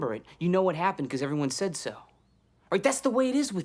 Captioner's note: none